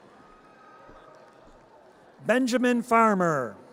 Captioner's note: audience cheers